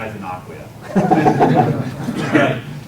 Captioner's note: laughter